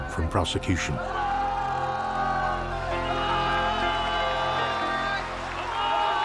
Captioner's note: crowd cheering in Japanese